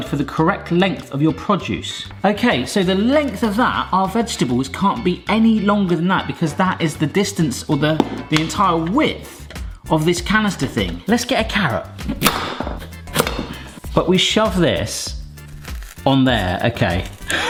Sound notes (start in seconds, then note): 12.0 knife chopping; 17.2 laughs